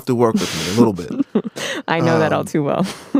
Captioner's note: laughs